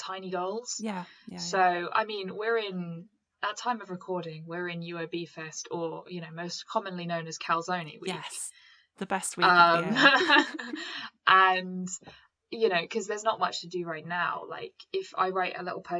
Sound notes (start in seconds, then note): 9.9 laughter